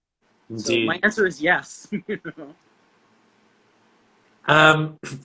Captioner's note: chuckling